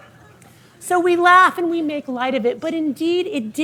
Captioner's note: audience laughing